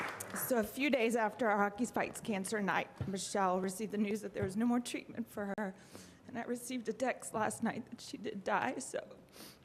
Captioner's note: applause